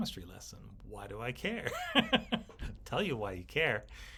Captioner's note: laughs